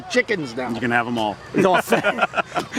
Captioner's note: laughs